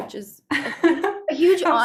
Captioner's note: laughing